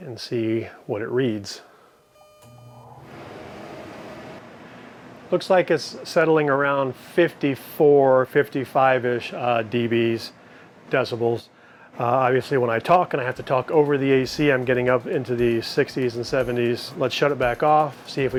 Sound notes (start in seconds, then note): 3.5 AC humming